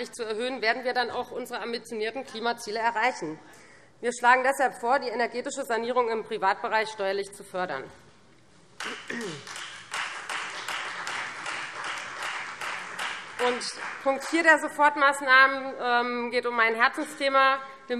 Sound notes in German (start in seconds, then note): 8.8 Beifall Freie Demokraten